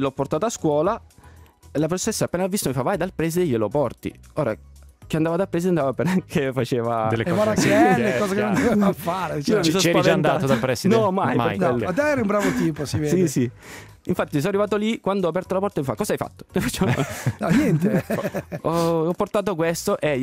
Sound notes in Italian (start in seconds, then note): 16.6 Risate